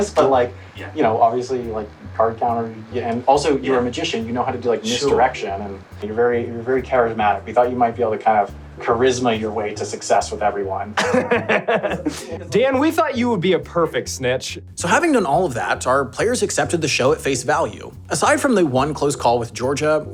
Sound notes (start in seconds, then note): 10.9 laughs